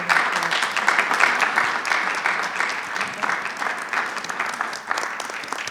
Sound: audience applauding

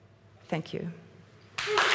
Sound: applause

